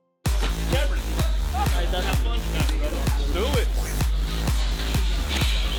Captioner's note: upbeat music; people chattering